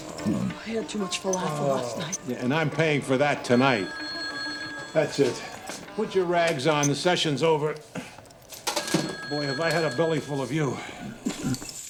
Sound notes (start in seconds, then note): 0.1 belches; 4.5 phone Rings; 11.2 belches